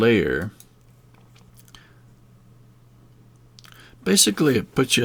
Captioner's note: silence